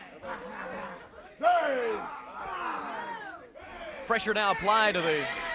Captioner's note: crowd chatter